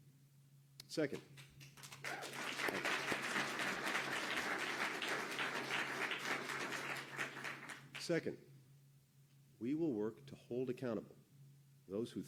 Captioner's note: applause